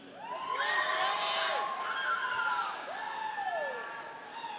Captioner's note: audience cheering